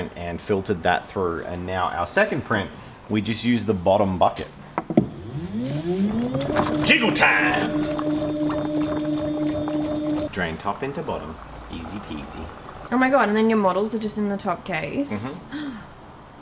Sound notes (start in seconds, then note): 5.2 jiggling